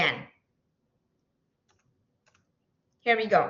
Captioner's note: silence